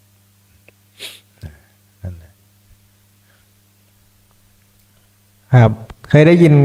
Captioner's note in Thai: เสียงสูดหายใจ